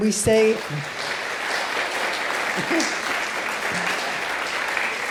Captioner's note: audience clapping